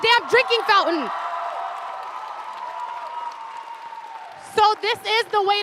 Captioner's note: audience cheers and applauds loudly